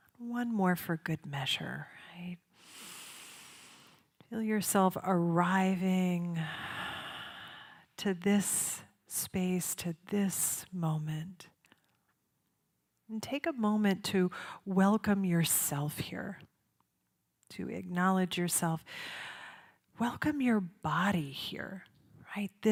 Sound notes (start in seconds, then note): 2.6 inhales; 6.8 exhales